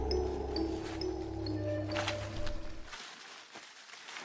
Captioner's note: footsteps pattering; branches rustling